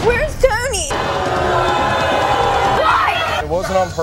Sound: audience booing

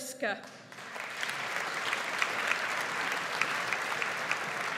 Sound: audience applauds

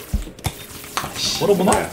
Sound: poof

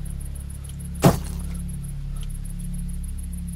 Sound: loud thud

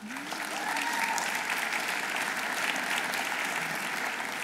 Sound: audience applauding

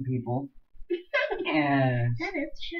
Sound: laughs

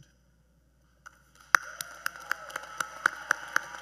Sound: cheers and Applause

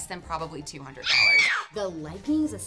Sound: woman screams

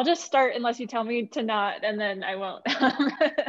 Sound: laughter

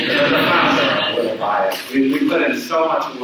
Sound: audience laughs

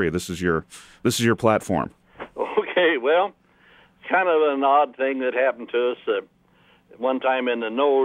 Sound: laughs

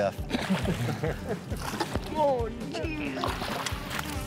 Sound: water splashing

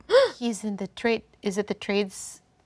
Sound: player gasps

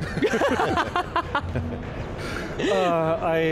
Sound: all laughing

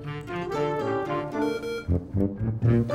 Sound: beep

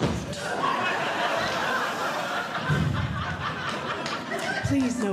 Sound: audience Laughing

